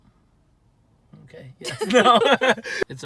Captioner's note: laughter